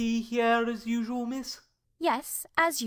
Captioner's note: sternly, in a calm voice